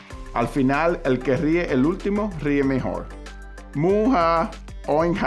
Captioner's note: speaking Spanish